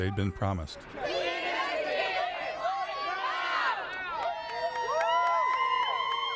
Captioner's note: kalabalık bağırıyor ve tezahürat yapıyor